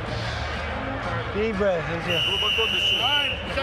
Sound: whistle blows

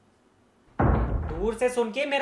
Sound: door shuts in the background

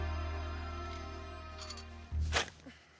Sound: rooster crowing

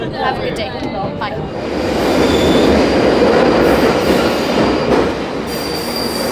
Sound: sound of train departing

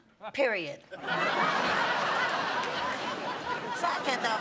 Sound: laughter

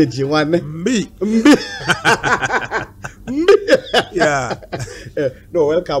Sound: laughs; laughs Again

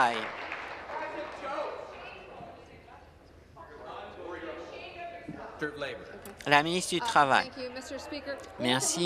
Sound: applause

